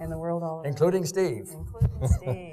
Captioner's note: laughs